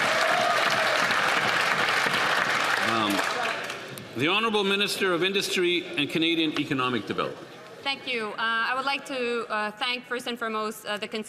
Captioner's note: some Applause